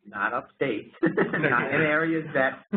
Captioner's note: laughing